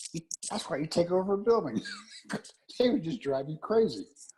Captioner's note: laugh